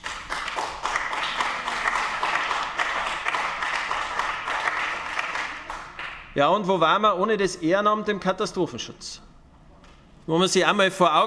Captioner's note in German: Beifall bei den GRÜNEN